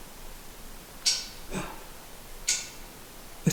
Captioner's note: clicking